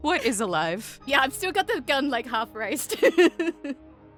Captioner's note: giggles